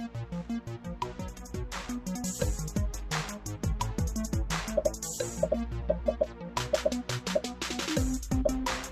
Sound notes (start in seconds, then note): 6.7 popping